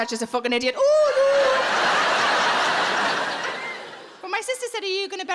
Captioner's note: audience laughs